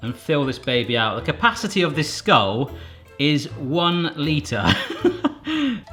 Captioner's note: laughs